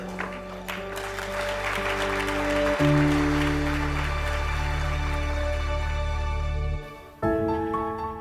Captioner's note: audience applauding